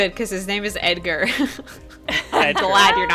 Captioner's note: laughs